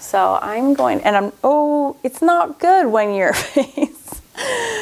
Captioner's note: laughs